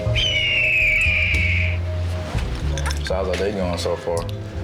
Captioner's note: eagle screeching